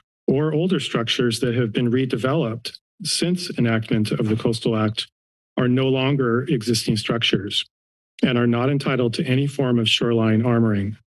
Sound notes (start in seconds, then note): none